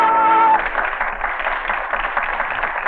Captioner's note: applause